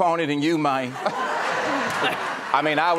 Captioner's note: audience laughing